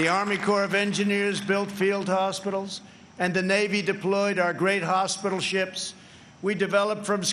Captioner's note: applause